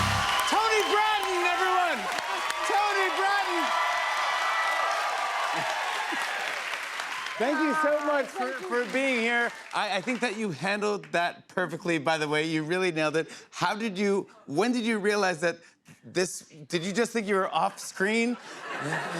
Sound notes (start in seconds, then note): 3.7 cheers and applause continue